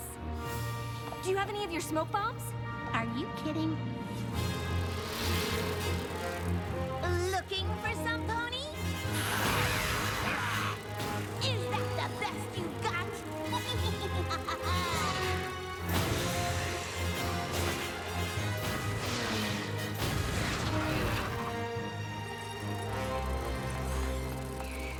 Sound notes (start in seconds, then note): 6.5 wings buzzing; 14.7 laughs